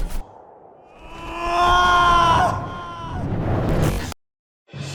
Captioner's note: Corrin screaming